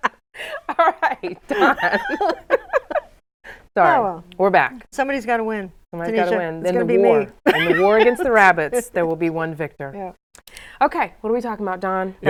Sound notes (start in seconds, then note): 6.7 laughs